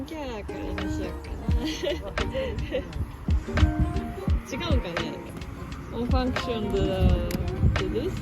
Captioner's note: laughs